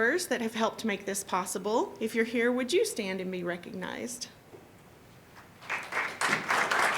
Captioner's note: applause